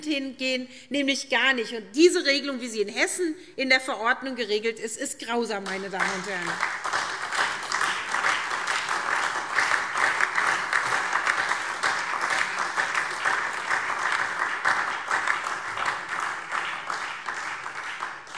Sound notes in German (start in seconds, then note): 5.6 Beifall SPD, Freie Demokraten und DIE LINKE